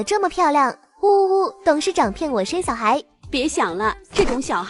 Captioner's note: kissing sound